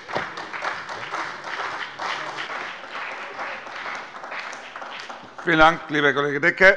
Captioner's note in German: Beifall bei der CDU, der SPD und dem BÜNDNIS 90/DIE GRÜNEN